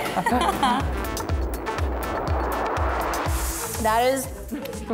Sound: laughs

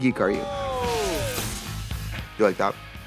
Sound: crowd exclaims; upbeat rock music

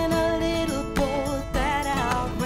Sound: equipment clanging

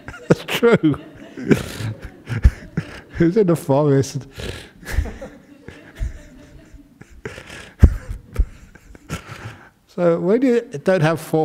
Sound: Ajahn chuckles

